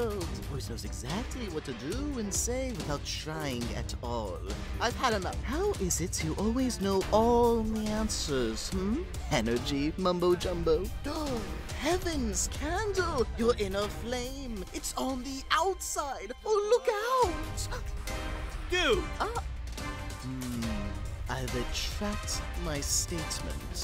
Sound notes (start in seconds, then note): 11.7 exclaims